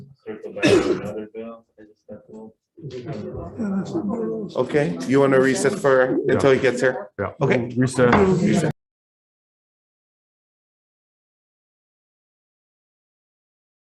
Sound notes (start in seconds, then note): 4.0 indistinct conversation; 9.2 gavel bangs